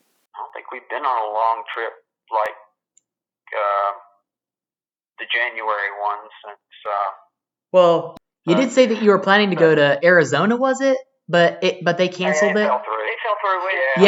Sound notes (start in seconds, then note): 0.6 on phone